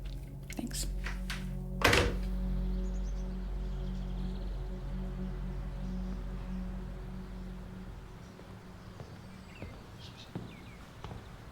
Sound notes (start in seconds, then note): 1.8 phone clicking in receiver; 9.4 distant birds